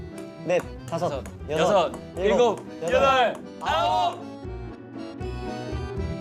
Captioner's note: the clear sound of the ping-pong ball and counting fill the air